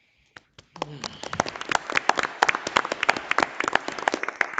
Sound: audience applauding

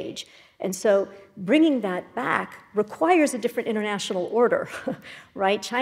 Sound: laugh

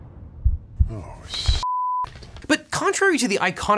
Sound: beep

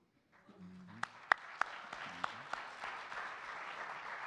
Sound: audience clapping

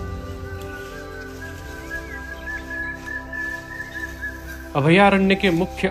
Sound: common Hawk Cuckoo Call

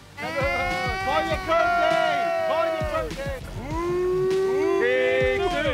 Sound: all cheering

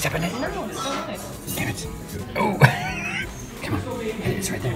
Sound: laughs

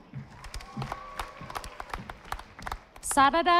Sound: audience applauding

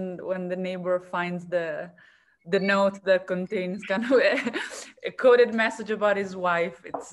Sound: laughs

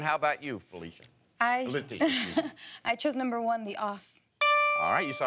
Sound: dinging bell

